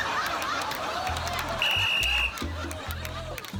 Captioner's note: blows whistle